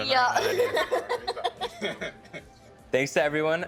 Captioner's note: laughing